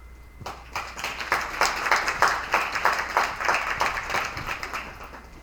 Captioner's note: attendees applauding